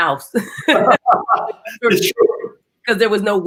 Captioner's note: laughing